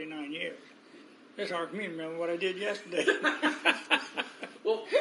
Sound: laughs

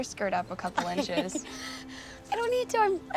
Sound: laughs

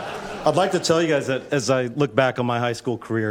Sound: laughter

